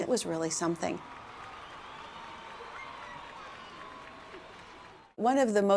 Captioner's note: cheering and applause